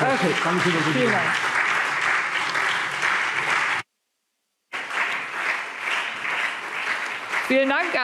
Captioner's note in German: Beifall SPD, CDU und BÜNDNIS 90/DIE GRÜNEN